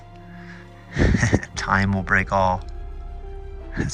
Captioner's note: chuckling